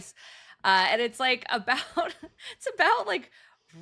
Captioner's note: chuckling